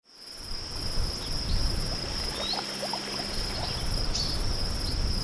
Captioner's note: sonidos silvestres